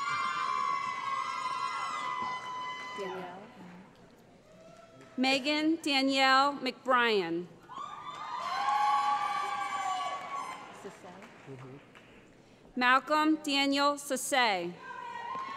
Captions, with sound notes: [ Cheering ] Meghann Danielle McBryan [ Cheering ] Malcolm Daniel Sesay